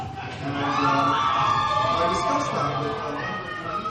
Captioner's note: crowd cheers